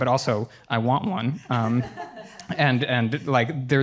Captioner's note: laughter